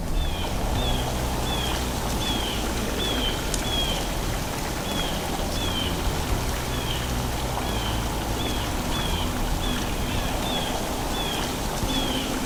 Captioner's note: sounds of bluejays calling, soft music